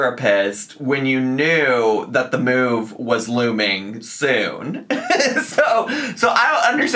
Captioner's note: laughs